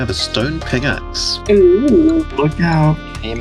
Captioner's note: pickaxe admiration noises